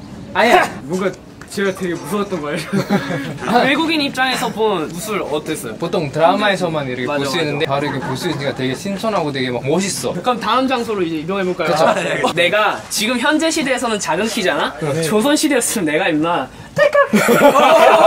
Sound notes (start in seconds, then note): 2.5 haha